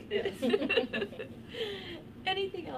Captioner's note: laughter